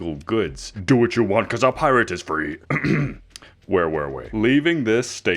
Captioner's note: cough